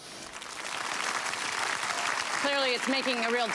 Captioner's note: audience applause